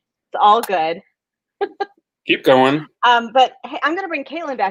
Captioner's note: laughs